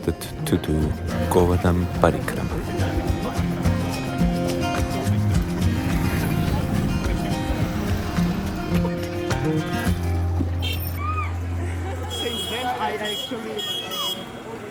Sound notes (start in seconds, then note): 2.8 upbeat music; 9.9 people chattering